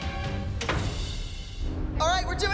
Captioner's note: door closes